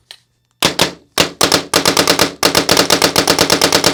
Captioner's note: shots firing